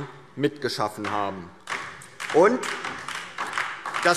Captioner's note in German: Beifall DIE LINKE